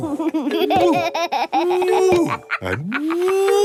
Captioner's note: laughs